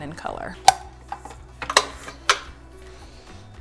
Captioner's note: pops